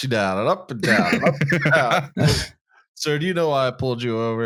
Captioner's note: laughs